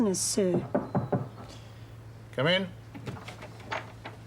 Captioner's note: knock at door